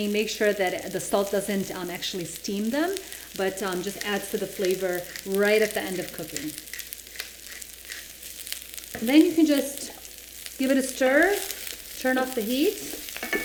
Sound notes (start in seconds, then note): 6.7 grinding pepper